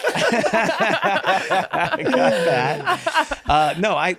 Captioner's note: group laughs